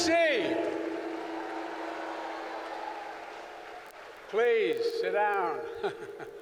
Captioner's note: applause